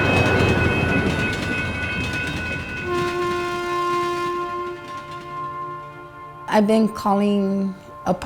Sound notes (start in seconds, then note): 0.0 sound of train passing nearby; 2.8 sound of train horn echoing in the distance